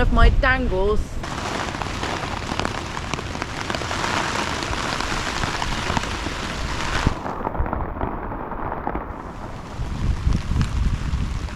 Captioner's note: wind & rain